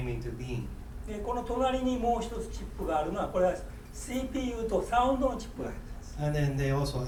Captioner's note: speaking in foreign language